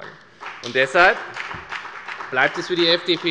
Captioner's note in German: Beifall bei der FDP